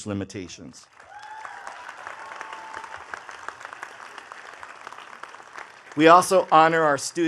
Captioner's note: attendees cheering and clapping